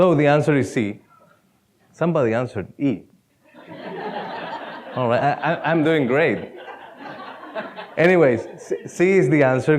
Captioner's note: laughter